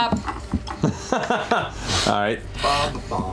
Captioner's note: laughs